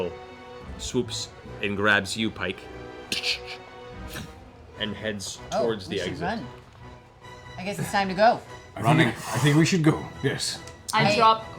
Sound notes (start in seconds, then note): 0.0 poof; 3.9 gripping sound